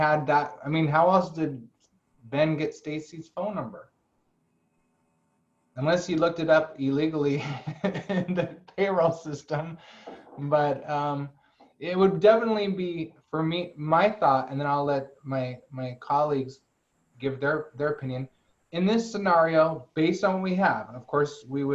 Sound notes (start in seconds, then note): 7.3 laughter